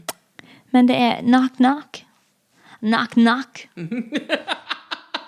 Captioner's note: american accent